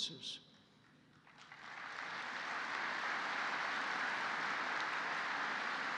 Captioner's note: applause